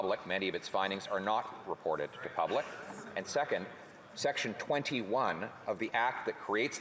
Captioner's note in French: voix de l'interprète